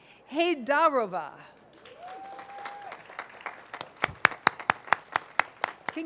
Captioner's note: cheers, applause